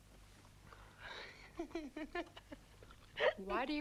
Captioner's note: Tracima laughs